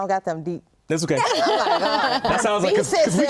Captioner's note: laughing